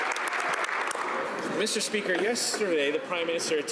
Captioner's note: speaking French